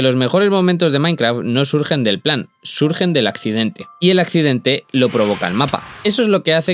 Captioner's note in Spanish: resoplido